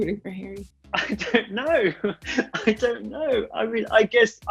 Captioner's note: chuckles